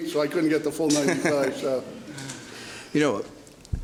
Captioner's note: laughs